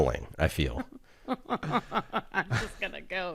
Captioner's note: laughs